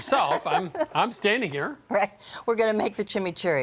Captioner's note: laughs